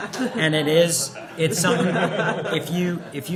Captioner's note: laughter